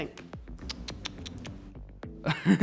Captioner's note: girl tsking; guy giggling